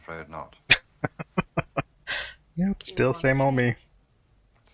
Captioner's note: laughing